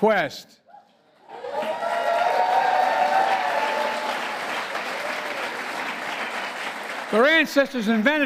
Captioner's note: applause